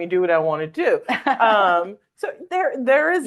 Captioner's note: laughing